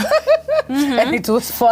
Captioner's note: laughing